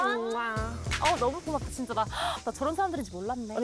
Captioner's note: relieved sound effect